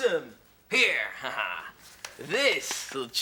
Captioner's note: laughs